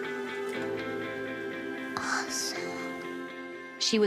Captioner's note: whispers